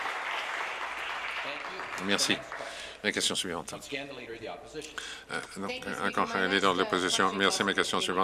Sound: some Applause

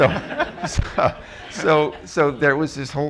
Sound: laughter

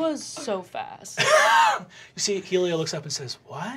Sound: laughing

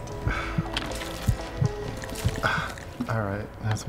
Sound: lung squishes; sighs

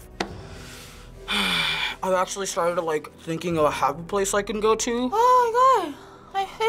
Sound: sighs

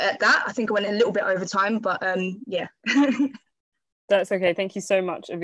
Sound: laughs

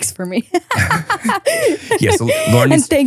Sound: laugh

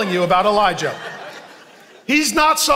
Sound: congregation laughing

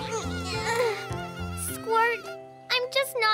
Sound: sighs

